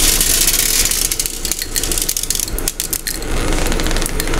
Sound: ice cracking

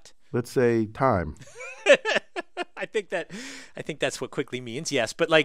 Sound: laugh

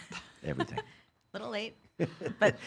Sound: laughs; laughing

